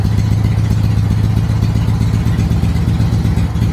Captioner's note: engine speed rises more than before